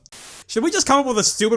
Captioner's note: static